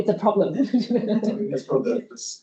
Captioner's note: audience laughing